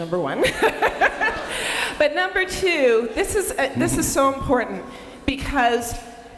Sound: laughs

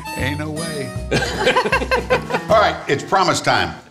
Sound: laughing

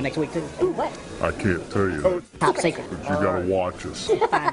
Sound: laughter

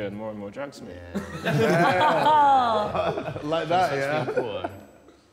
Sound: Sidemen laughing

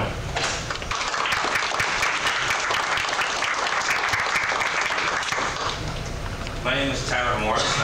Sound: clapping

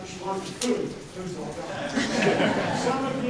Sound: laughter

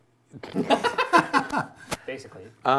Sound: laughing

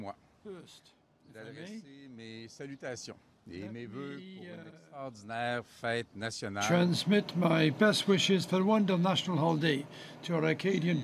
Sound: speaking French

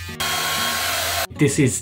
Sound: shaver buzzes; hair dryer whirs

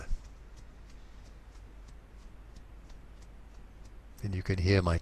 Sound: fingers tapping softly

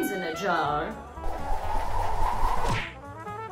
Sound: whooshing newspaper

